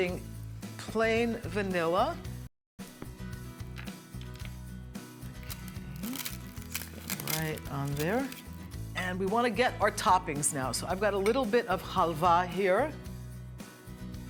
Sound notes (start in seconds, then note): 5.3 crunching of phyllo